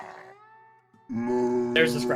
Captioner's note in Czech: sténá